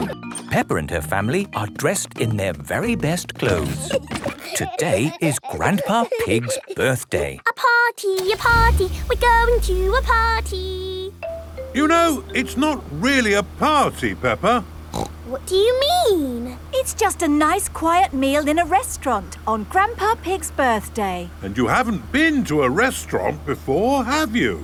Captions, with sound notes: - Peppa and her family are dressed in their very best clothes. - (giggling) - Today is Grandpa Pig's birthday. - (sing song voice) A party! A party! We're going to a party! - You know, it's not really a party, Peppa. - What do you mean? - It's just a nice quiet meal in a restaurant, on Grandpa Pig's birthday. - And you haven't been to a restaurant before, have you?